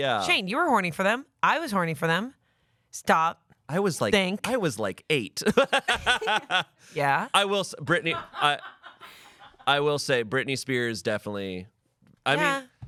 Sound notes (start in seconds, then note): 5.5 laughs; 9.4 crew laughs